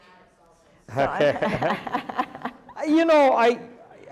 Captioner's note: chuckles